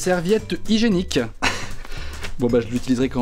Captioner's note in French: rire